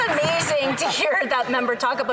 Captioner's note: applause